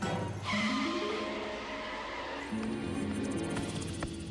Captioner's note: brakes screech